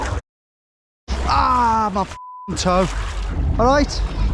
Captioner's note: beep